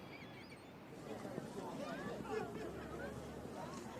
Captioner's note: chatter and walking